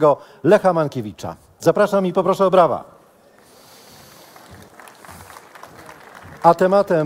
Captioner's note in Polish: oklaski